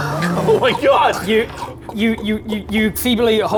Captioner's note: exposed gut noises